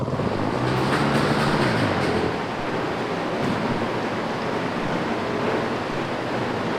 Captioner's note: machinery whirring; water gurgling